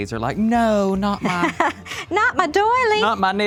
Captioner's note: laughs